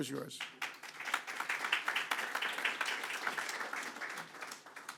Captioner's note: attendees clapping